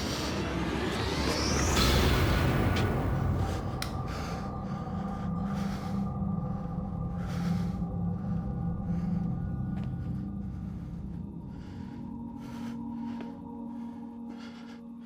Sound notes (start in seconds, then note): 11.4 ragged breathing